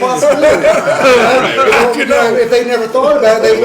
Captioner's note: laughter